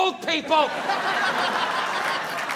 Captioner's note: audience laughing